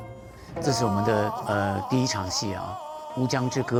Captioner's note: speaking in Chinese